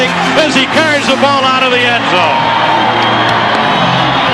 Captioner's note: crowd cheering